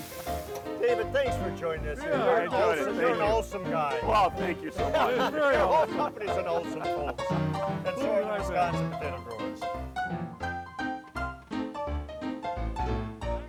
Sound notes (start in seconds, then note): 4.1 laughing; 9.8 ragtime music continues